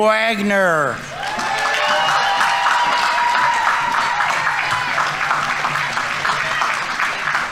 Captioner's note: audience applauding; audience members cheering